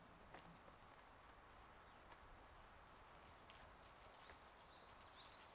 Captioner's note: ambient outdoor noises